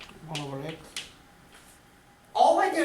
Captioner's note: voiceover